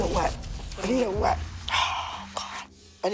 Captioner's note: sighs heavily